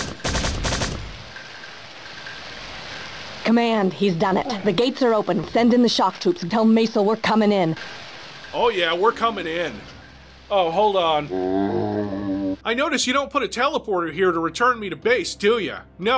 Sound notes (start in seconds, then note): 11.2 zombie groan